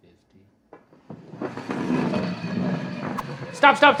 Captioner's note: puck sliding